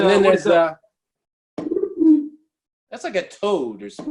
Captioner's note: croak